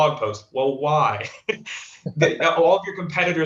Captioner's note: chuckles